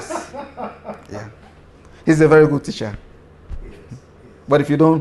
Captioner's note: laughter